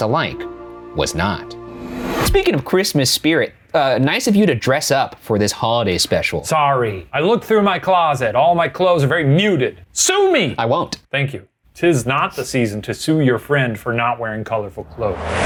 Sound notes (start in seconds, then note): none